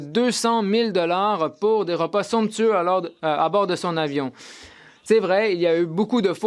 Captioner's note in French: voix de l'interprète